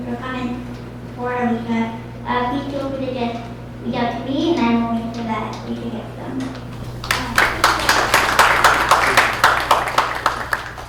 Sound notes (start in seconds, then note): 6.7 applause